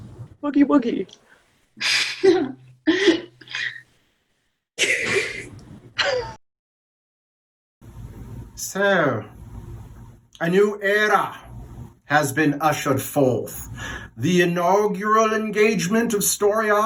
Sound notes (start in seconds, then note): 4.8 laughter